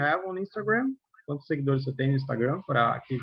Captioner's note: non-english speech